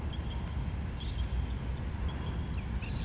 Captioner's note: sounds of crickets chirping, birds singing, cars passing